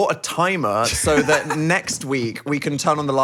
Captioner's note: laughs